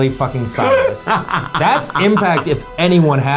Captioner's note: laughs